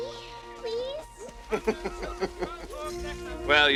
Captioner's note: laughs